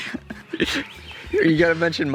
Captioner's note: laughter